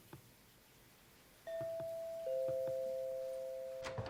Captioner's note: doorbell rings